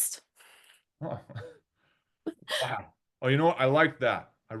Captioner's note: chuckles; laughing